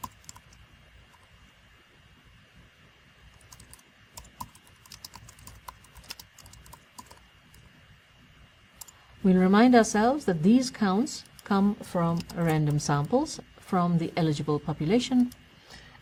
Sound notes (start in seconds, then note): 3.7 pause